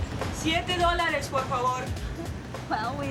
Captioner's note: speaking foreign language